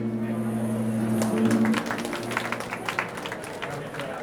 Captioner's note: applause